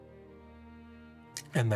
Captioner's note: laughing